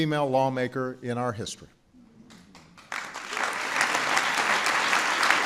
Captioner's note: applause